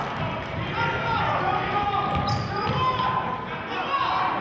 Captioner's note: yelling